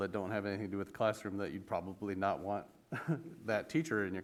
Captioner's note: laughs